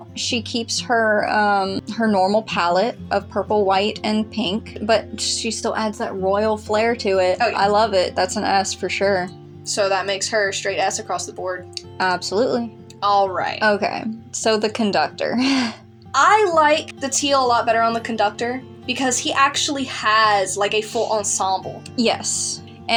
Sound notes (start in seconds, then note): 15.3 laugh